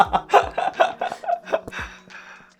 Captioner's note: laughing